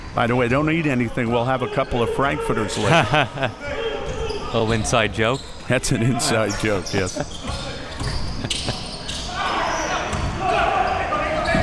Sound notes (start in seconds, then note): 2.7 chuckles